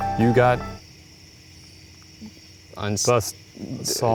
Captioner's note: music stops